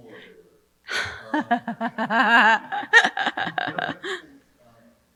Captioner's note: laughing